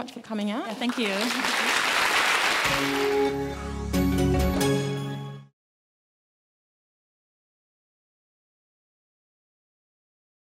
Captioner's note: applause